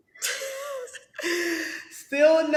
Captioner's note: Sanya laughing